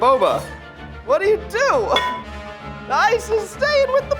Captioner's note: laughs